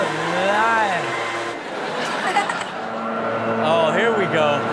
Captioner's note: Chanel laughs